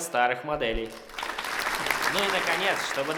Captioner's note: applause